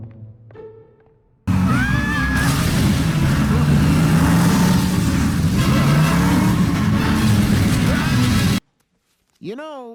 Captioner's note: screams